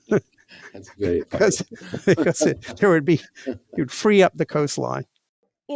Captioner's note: laughter